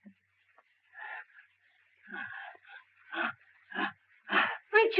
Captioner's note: breathing deeply